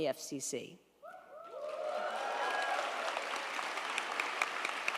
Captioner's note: crowd applauding